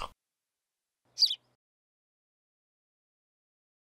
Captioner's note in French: chant d’oiseau